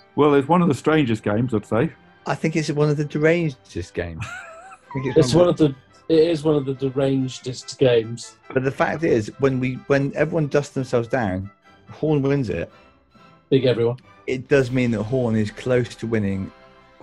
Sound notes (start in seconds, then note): 4.1 sniggering